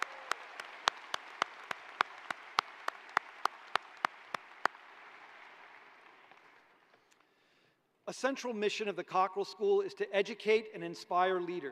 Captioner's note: applause